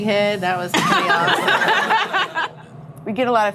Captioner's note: laughing